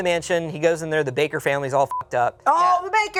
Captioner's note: beep